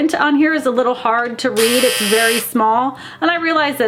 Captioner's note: buzzer blares